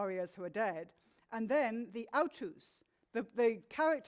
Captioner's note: speaks in foreign language